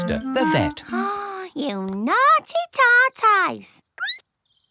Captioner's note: gasps; squeaks